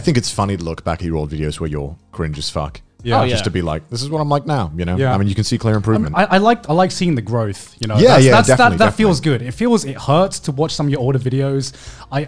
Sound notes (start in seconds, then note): none